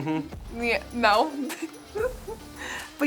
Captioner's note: laughing